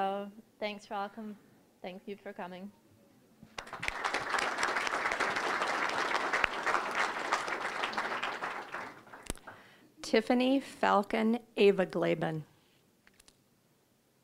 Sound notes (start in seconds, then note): 3.5 applause